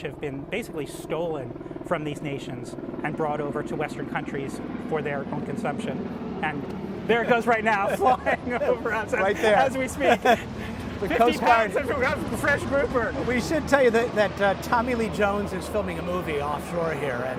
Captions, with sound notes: have been basically stolen from these nations and brought over to Western countries for their home consumption. (propellors whirring) And there it goes right now, flying over (laughing). As we speak. - The Coast Guard. - 15 times. Let's go grab some fresh grouper. - We should tell you that that Tommy Lee Jones is filming a movie offshore here.